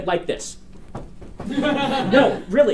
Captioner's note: students laugh